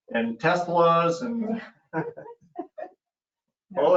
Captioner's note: chuckling